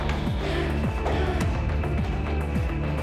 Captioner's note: Jan breathing